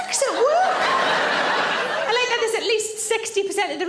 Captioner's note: audience laughs